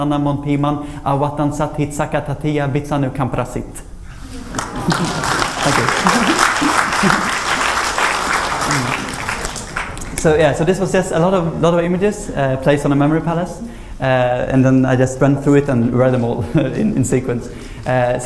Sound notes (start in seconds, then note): 4.4 applause